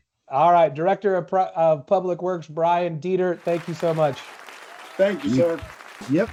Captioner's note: applause